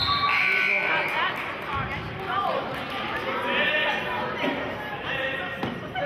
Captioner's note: whistling and buzzer sounding